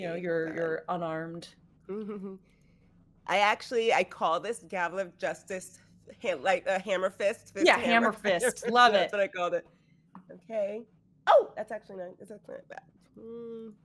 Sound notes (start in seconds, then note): none